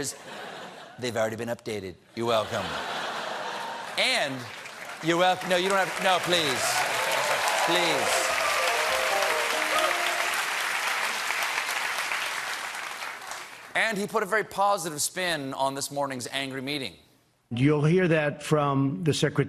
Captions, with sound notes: THEY'VE ALREADY BEEN UPDATED." YOU'RE WELCOME ( APPLAUSE ) NO, PLEASE -- PLEASE -- ( APPLAUSE ) ( PIANO RIFF ) AND HE PUT A VERY POSITIVE SPIN ON THIS MORNING'S ANGRY MEETING. >> YOU WILL HEAR THAT FROM THE SECRETARY GENERAL IN A LITTLE